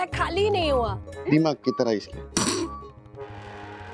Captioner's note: stifled laugh